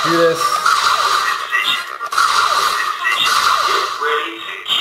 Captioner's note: electronic beeps; voiceover